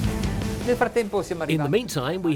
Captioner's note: speaking in a foreign language